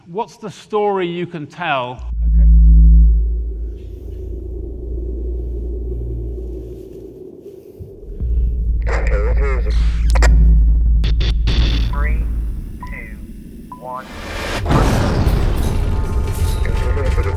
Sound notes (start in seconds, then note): 4.9 bass booming; 10.8 static glitching; 14.0 machines crashing